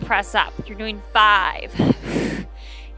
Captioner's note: exhales